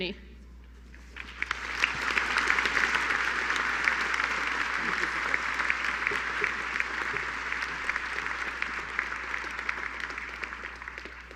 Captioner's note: applause